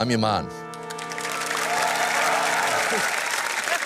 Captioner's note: applause